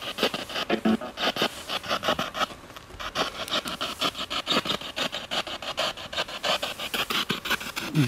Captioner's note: radio noise from the spirit box